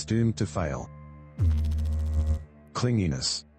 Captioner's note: electrical noise